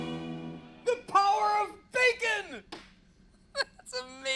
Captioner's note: laughs